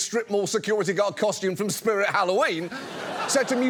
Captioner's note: audience laughs